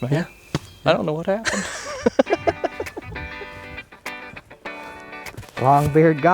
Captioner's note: laughter